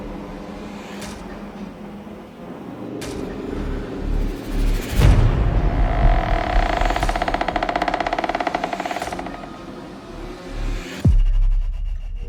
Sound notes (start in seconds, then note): 5.6 doll creaking